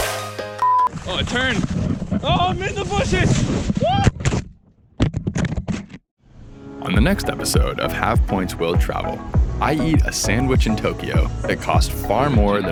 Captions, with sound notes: (alert beep) Oh, turn! Oh, missed the bushes. Whoa! On the next episode of Have Points, Will Travel I eat a sandwich in Tokyo that costs far more